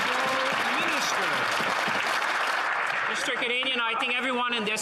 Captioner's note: some Applause